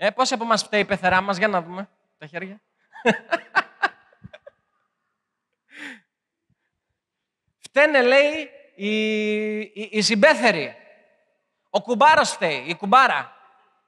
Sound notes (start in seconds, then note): 3.0 laughing